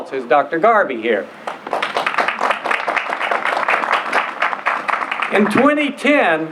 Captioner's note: applause